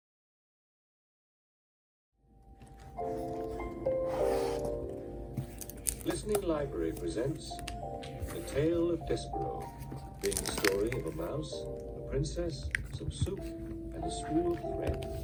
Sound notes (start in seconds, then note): 2.4 "The Tale of Despereaux" audiobook playing in the background